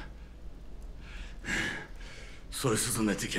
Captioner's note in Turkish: Nefes sesi